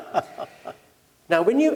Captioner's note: laugh